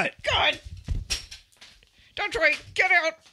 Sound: Sound of Han getting up

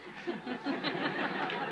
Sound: laughter

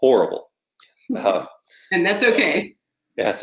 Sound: laughing

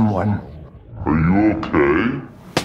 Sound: deep voice

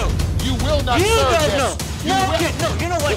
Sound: shouting

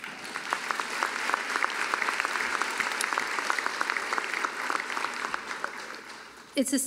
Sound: applause

